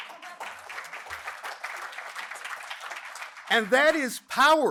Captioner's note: applause